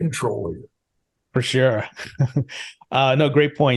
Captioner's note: laughs